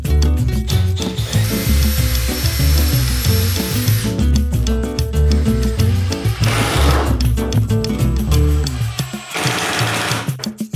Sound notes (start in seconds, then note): 1.6 drilling